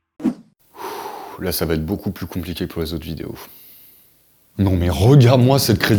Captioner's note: sigh